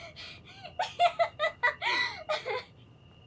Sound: laughter

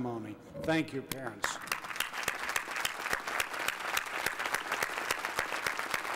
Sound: applause

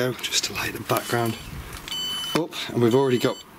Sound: sensor beeps

